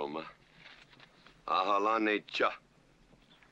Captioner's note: speaking Comanche